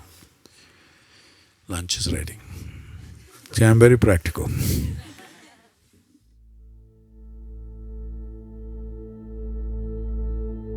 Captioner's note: laughter